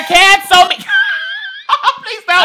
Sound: laughs

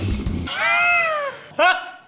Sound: laughing

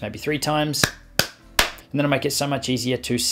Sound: man clapping

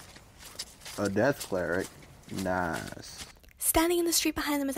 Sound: footsteps stop

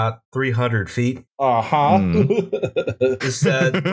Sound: laughter

